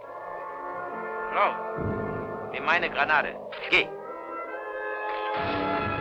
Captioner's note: speaking in a foreign language